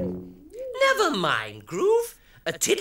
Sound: space sounds

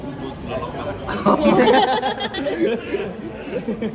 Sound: everyone laughs

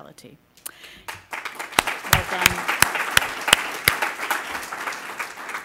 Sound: applause

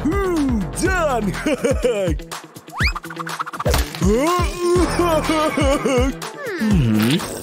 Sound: grunting

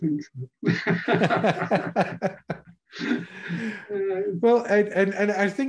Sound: laughing

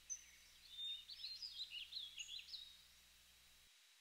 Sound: birds chirping

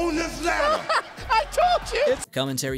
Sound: laughs

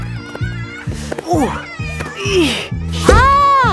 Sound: grunting

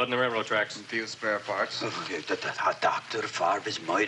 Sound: stammers

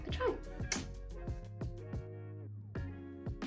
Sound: blows kiss

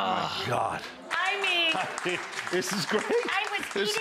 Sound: audience applauding

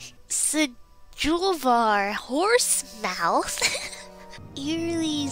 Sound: laughs

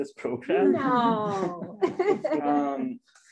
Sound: laughs

